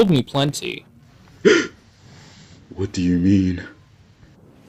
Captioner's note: Zazelmare gasps